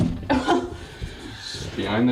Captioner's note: laughing